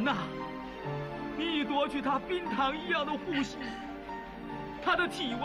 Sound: speaking foreign language

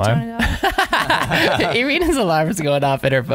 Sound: laughing

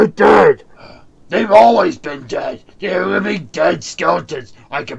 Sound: sighs in frustration

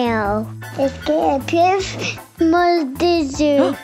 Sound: speaking French

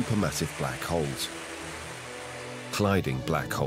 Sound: jets hissing

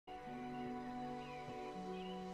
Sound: birdsong

